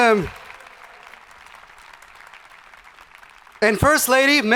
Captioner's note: crowd applauding